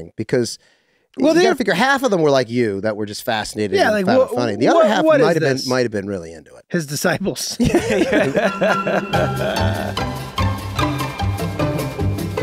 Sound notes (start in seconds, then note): 7.6 hosts laugh; 9.4 upbeat music